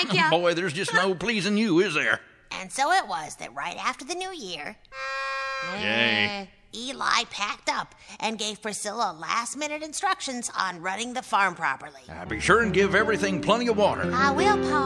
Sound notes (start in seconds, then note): 4.9 party favor horn sound